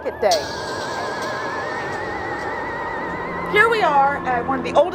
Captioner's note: spooky sounds